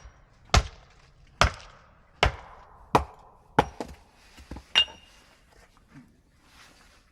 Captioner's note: the sound of chopping wood